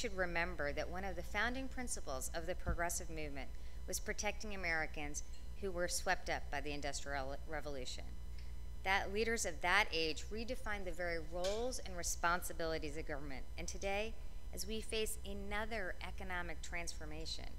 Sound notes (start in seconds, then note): none